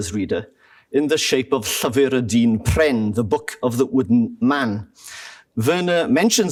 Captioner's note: non-english